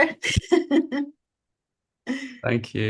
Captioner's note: chuckles